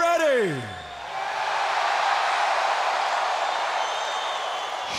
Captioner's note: audience cheering